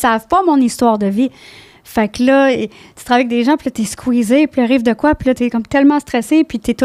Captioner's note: in french